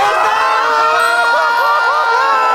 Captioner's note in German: Jubel, Applaus